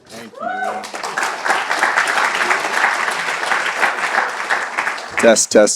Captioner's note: applause